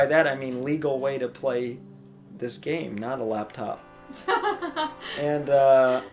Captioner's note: laughs